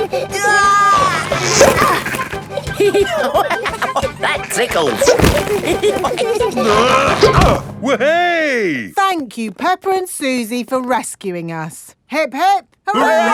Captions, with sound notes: -(GIGGLING) -Aah! (LAUGHING) That tickles! (ALL GIGGLING) (GRUNTING) Weh-hey! Thank you, Peppa and Suzy, for rescuing us. Hip-hip!